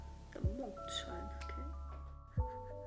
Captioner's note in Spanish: en chino